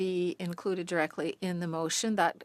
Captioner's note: speaking French